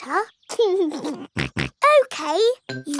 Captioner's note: laughs and snorts